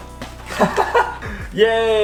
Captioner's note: laughing